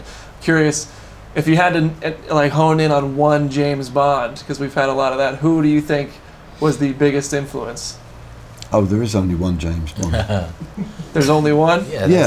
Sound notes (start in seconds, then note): 9.9 laughing